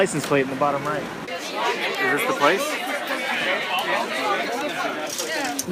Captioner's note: crowd talking